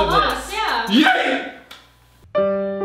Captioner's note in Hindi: चिल्ला